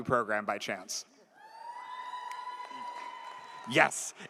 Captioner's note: audience cheers